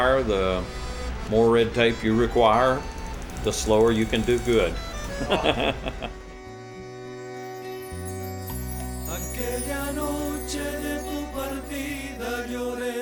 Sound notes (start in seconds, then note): 4.9 laughing